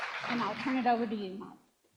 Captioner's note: applause